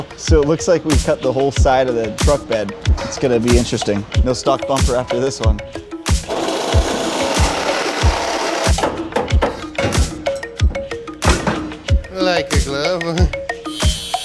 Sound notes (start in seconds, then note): 6.1 saw buzzing; 9.4 wrench banging